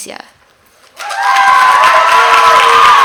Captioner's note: applause